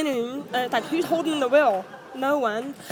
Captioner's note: audience laughs